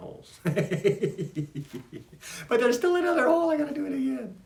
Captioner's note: laughs